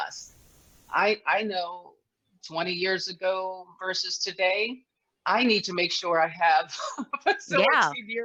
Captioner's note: laughs